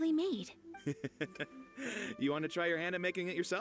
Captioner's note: laughs